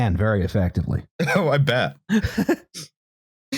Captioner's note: laughs